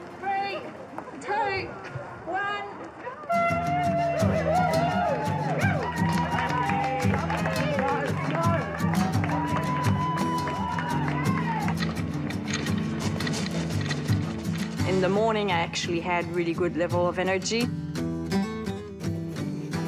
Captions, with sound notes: three, two, one... (ALL CHEER) (SPECTATORS APPLAUD) (BLUESY ACOUSTIC GUITAR MUSIC) - In the morning, I actually had a really good level of energy.